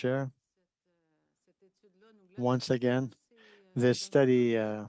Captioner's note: speaking French